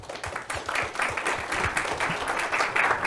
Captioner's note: applause